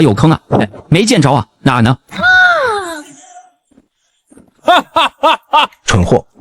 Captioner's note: laughing